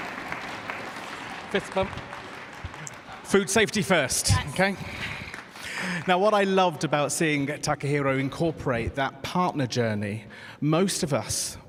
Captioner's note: cheers and applause